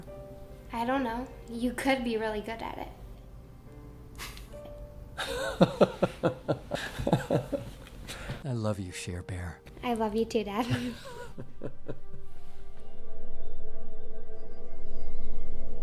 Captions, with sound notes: - I don't know? You could be really good at it. (both chuckle) - I love you, Share Bear. - I love you too, dad. (both chuckling) (tense music)